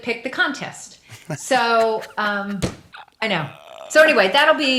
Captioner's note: laughs